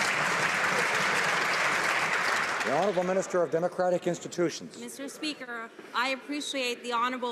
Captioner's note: some Applause